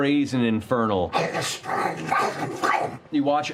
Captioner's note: infernal voice